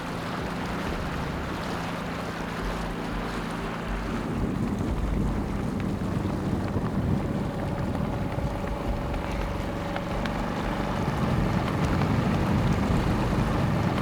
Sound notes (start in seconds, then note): 0.2 water lapping; 8.6 motor chugging